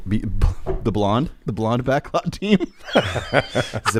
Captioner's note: laughs